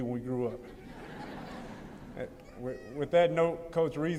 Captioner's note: laughter